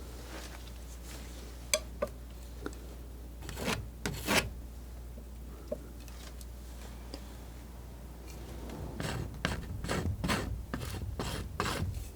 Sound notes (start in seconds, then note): 0.6 scratching